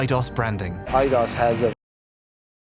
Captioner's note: french-canadian